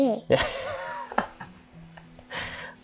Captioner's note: laughs